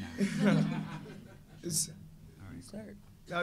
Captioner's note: audience laughing